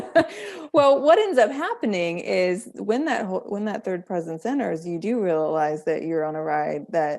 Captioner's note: both Laughing